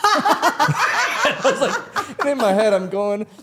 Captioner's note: all laughing